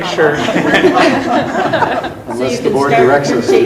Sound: laughs

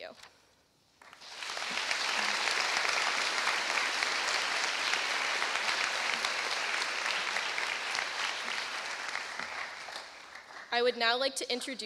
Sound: applause

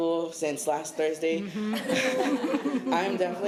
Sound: laughter

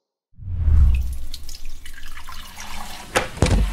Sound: sound of water dripping

